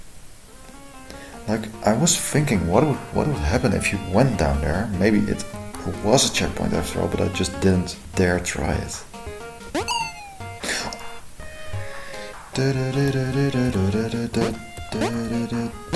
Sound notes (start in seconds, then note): 11.8 gasp; 12.3 hums along with the music